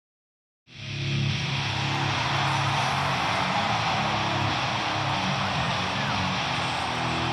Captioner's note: rock music plays; crowd cheers